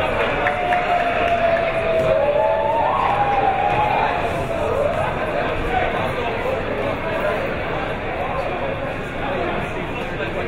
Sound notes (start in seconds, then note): 0.0 crowd members cheering; 7.0 crowd members talking